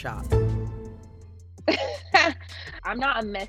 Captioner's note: laughs